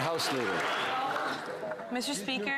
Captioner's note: some Applause